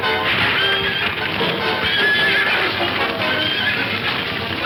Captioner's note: dramatic music; fire crackling; horse whinnying